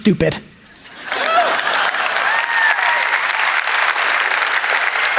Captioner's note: audience applauds